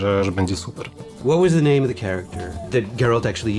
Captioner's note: in English